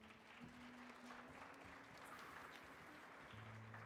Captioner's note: audience applauding